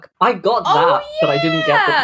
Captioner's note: laughs